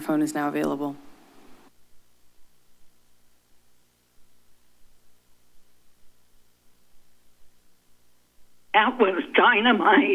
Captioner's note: silence